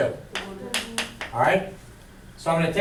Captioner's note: voiceover